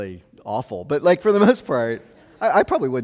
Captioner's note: audience laughing